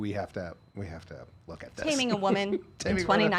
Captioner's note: laughing